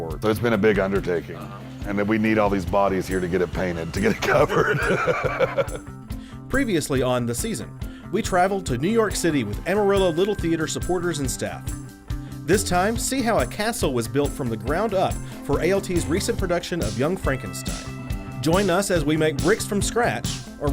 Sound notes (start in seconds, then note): 4.0 laughs